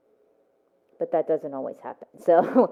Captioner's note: laughs